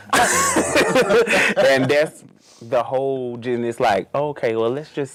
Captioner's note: laughs